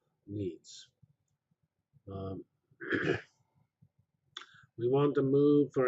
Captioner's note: pause